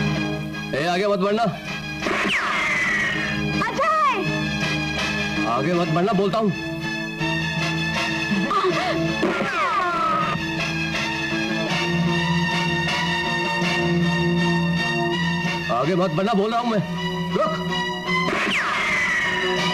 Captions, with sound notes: Don't come forward. (Gunshot) Ajay. I warn you not to come forward. (Gunshot) I said don't come forward. Stop. (Gunshot)